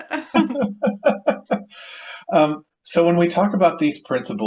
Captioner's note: laughs